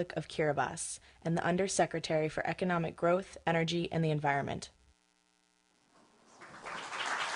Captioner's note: applause